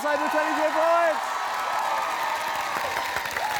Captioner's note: cheering, applause